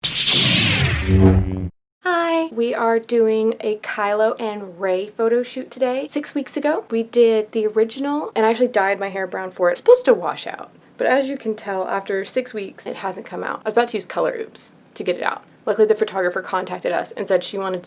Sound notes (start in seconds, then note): 0.0 lightsaber sound effect